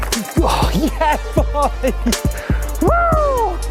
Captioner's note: light electronic music; laughs